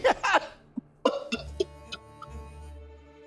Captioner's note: laughs